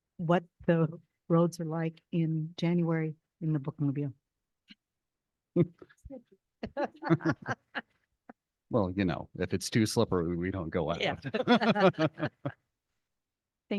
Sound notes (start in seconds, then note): 6.7 and board members laughing; 11.2 everyone laughing